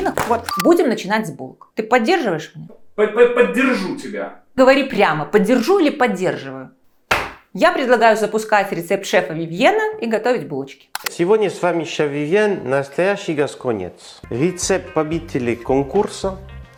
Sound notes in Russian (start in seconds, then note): 3.7 закадровый голос